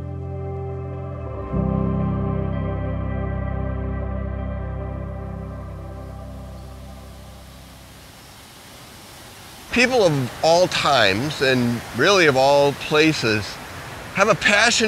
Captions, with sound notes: (SERENE MUSIC) (WATER FLOWING) PEOPLE OF ALL TIMES AND REALLY OF ALL PLACES HAVE A PASSION